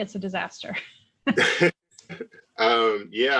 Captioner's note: laughter